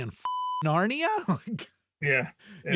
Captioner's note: beep